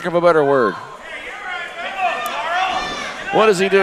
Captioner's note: crowd cheering